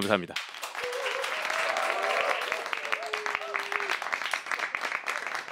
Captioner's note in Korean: 박수 소리